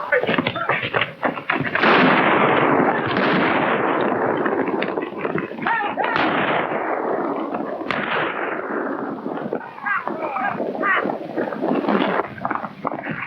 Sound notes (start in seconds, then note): 2.4 guns firing; 5.6 men shouting